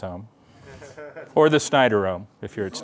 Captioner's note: laughter